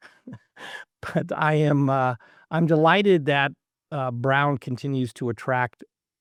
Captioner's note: laugh